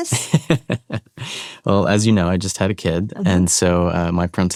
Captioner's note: chuckles